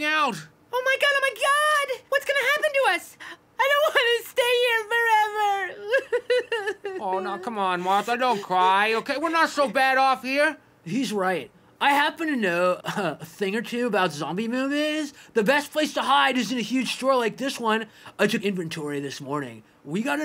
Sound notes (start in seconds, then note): 4.8 sobbing